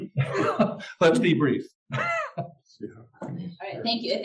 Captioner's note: laugh